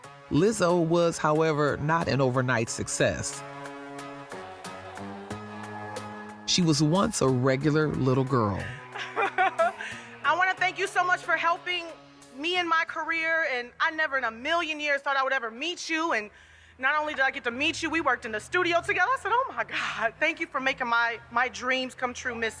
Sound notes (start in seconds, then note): 8.6 laughs